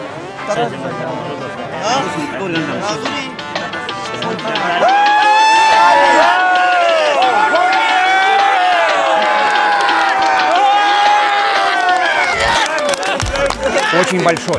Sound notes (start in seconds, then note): 4.7 cheering